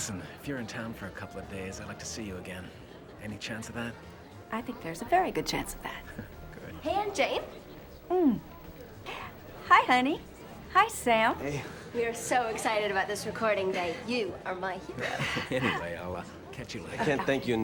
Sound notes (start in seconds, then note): 6.3 chuckles